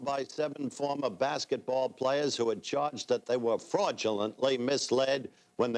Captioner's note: none